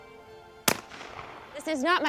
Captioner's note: shotgun bangs